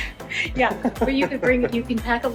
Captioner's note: chuckling